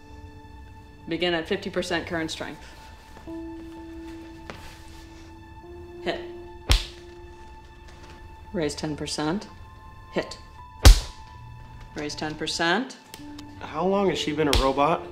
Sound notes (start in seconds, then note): 6.6 smack; 10.8 smack